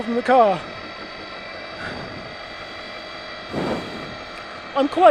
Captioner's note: engine revving